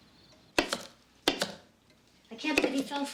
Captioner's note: knife clanks